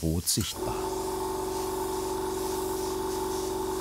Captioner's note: compressor hum, airbrush hissing